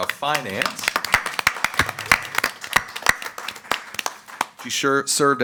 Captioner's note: audience applauds